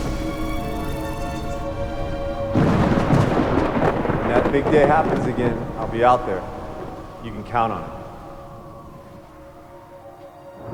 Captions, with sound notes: (eerie music) (lightning cracking) - When that big day happens again, I'll be out there. You can count on it.